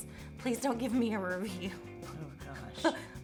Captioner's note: nervously laughs